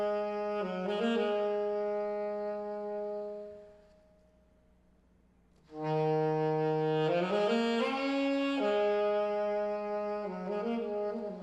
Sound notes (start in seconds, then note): none